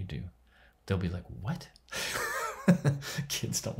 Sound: laughs

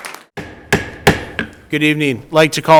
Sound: gavel bangs

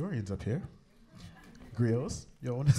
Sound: laughter

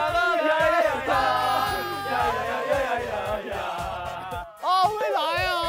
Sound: sounds of happiness

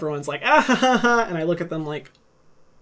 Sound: laughs

